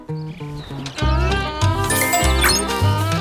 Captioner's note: notification